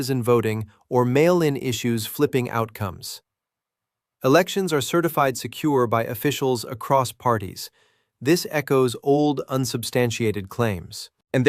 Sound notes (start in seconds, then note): 2.5 sarcastic